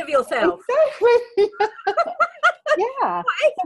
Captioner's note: laughing